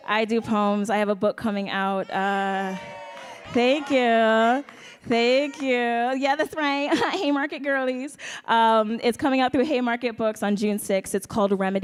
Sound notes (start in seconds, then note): 1.9 audience cheering